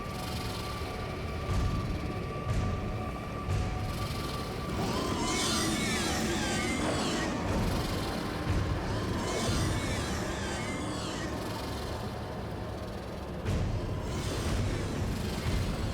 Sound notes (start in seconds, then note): 0.9 dramatic music; 4.8 creature screeches; 9.9 dramatic music